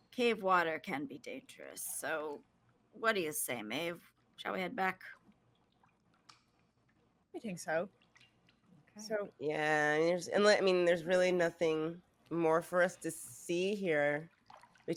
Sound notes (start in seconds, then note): none